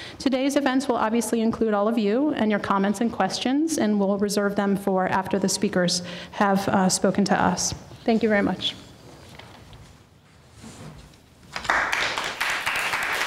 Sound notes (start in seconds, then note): 9.0 audience members applaud